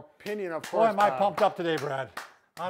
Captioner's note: hands clapping